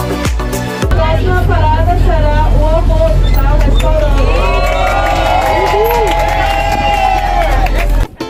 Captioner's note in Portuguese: aplausos